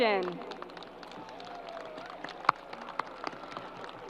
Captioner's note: crowd applause